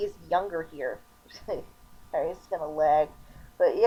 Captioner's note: chuckle